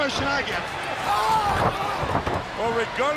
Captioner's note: Luger groaning